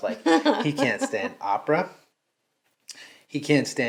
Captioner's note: laughing